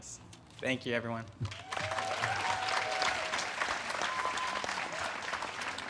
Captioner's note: audience cheers and claps